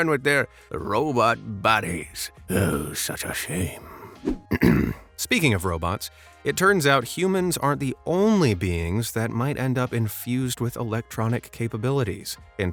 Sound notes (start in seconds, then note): 4.4 clearing throat